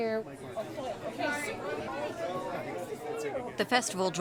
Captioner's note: patron chatter